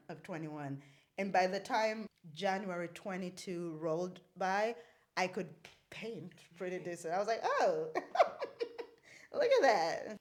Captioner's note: laughs